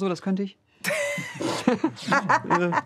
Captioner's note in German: Heike lacht